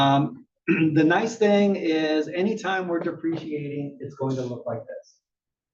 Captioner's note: cough